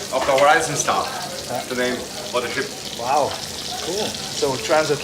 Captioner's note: indistinct chatter